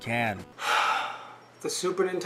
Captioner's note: exhales